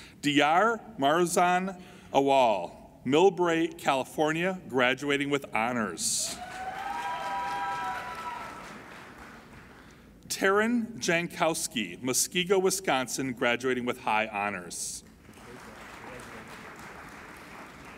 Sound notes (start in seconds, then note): 6.2 applauding and cheering; 15.1 applauding